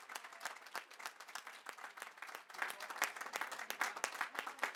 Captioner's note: applause